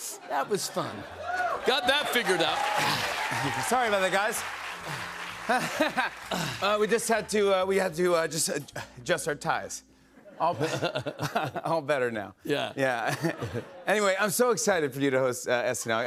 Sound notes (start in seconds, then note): 1.0 cheers and applause; 4.8 laughs nervously